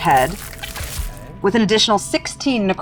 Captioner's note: die rattling